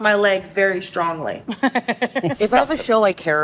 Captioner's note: laughing